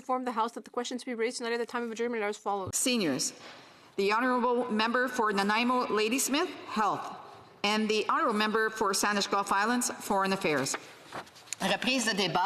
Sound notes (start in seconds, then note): 2.4 speaking French